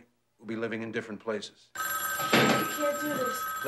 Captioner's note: phone ringing